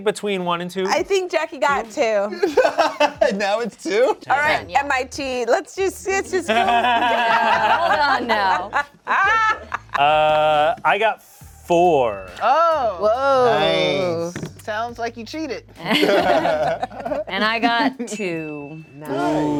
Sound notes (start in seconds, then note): 2.4 laughs; 6.5 laughs; 12.7 cast exclaims; 15.8 laughs